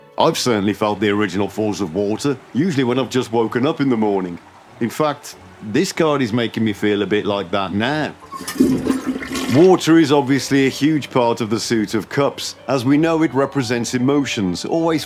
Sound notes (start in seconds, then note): 8.3 flushing sound